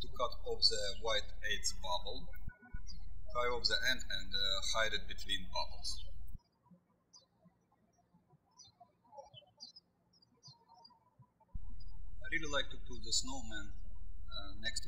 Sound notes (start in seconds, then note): 7.2 birds chirping